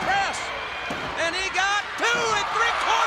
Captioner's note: body thudding; crowd cheering